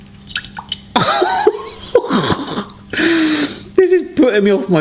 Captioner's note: laughing